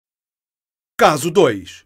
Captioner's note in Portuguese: Voz masculina